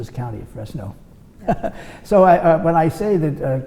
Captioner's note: laughs